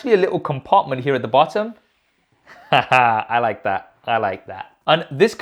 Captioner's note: laughs